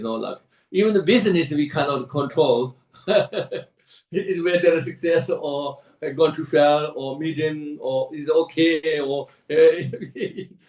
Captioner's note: laughs; laughs